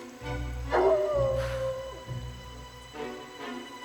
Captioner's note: exhales